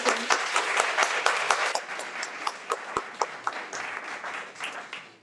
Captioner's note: audience applauds